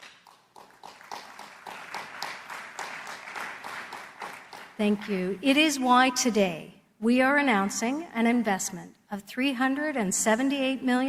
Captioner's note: applause